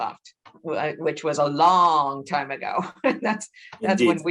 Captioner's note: laughs